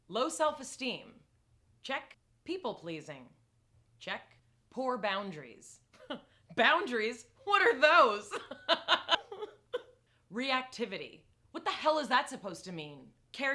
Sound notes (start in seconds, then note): 5.6 laughing; 8.8 crying